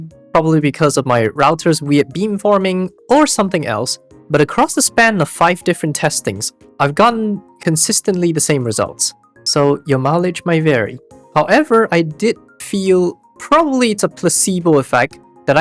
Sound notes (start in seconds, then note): none